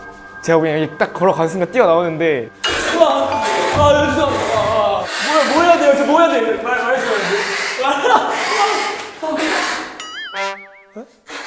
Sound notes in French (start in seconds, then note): 7.4 Cris perçants